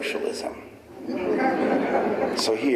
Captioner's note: audience laughing